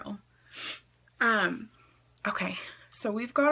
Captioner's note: sniffs